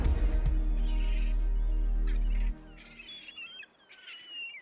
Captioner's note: seagulls